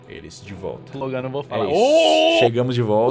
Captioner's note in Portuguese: grito